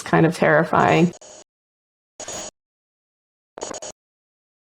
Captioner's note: static